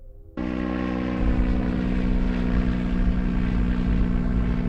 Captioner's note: airplane engine roaring